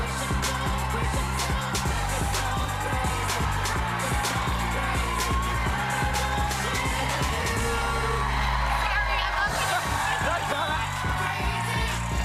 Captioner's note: cheers and applause